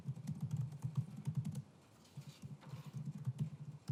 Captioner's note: typing sound